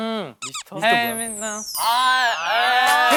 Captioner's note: murmured hint